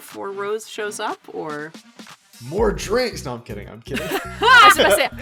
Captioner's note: laughs